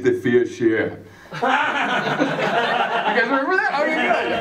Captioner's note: laughter